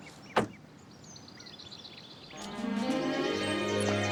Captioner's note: boot clanks; lively music